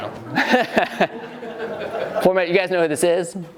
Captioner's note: laughing